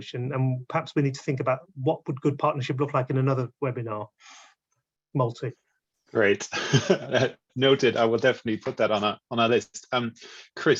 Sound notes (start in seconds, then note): 6.5 laughs